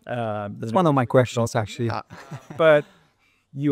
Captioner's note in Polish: śmiech